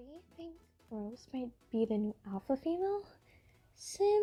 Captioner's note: whisper to her friend